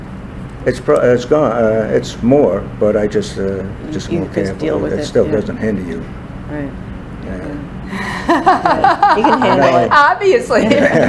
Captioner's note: laughs